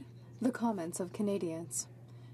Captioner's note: speaking French